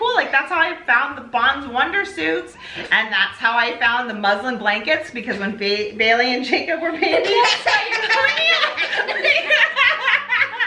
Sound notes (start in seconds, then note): 7.0 laughs